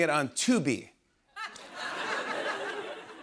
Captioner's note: laughter